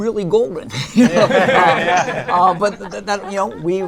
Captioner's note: laughter